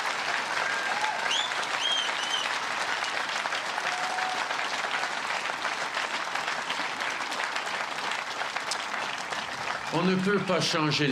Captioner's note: cheers and applause